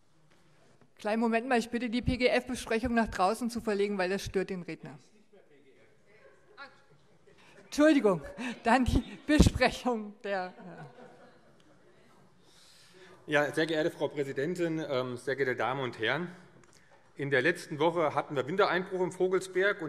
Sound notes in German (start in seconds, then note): 6.2 Zuruf DIE LINKE: Er ist nicht mehr PGF! - Heiterkeit